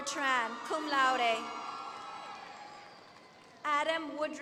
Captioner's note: applause